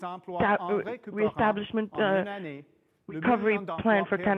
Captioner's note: speaking French